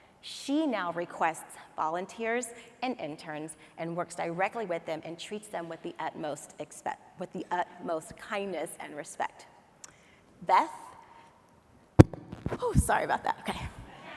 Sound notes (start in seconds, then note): 12.0 hand thuds on mic